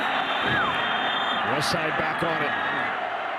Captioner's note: whistles; referee blows whistle